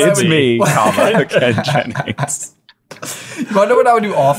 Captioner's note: laughing